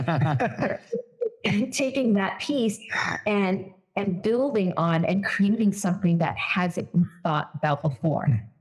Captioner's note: laughs